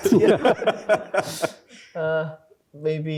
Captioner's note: laughter